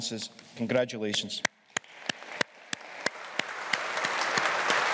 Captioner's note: all applauding